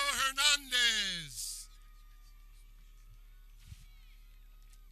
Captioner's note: people cheering